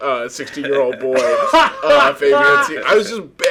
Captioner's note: laughing